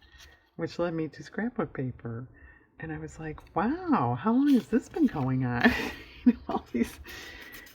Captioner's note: laughs